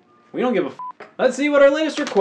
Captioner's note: beeps